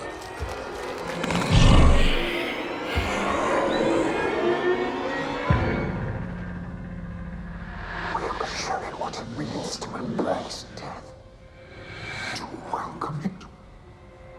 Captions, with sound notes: (bones cracking) (Strigoi snarling) (eerie music) We must show you what it means to embrace death. To welcome it,